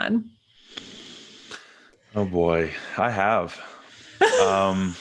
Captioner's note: breaths deeply; chuckles